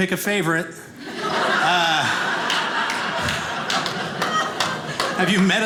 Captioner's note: audience laughing